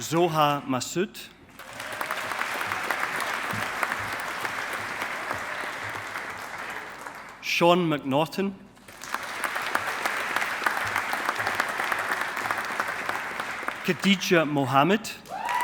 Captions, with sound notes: Zoha Masood. (AUDIENCE APPLAUDING) Sean McNaughton. (AUDIENCE APPLAUDING) Khadija Mohammed.